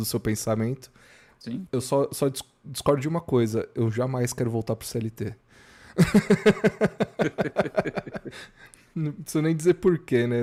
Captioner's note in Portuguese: risadas